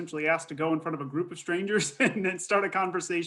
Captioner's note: laughs